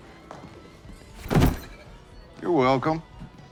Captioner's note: bags thumping